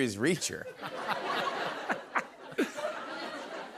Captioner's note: laughter